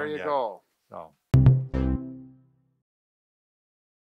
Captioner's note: tonal chime